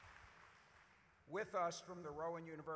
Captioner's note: applause